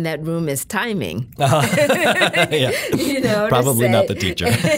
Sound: laughing

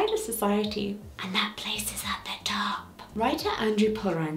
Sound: whispering

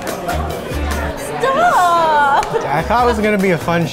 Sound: laughs; mocking

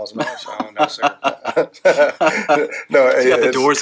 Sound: laughing

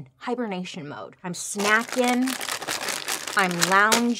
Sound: bag crinkling

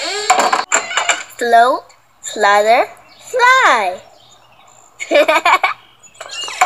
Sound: laughs

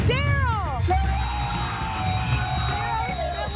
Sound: cheering

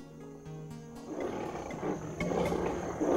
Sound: growling

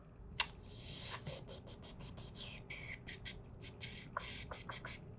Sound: whistling

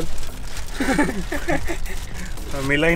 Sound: everyone Laughs

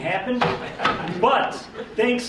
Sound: audience member laughing

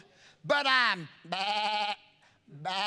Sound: intimating a sheep sound

